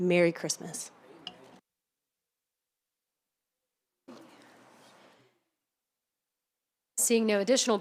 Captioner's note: silence